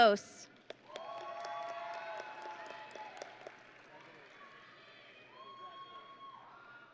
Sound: audience and graduates cheering

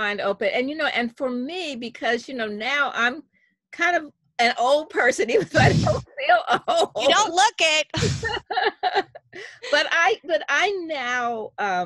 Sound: laughs all around

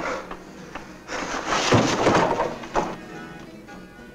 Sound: none

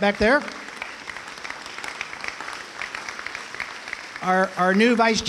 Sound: applause

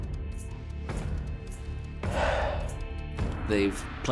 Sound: sighs

